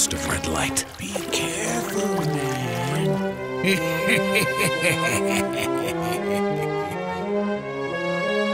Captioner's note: evil laugh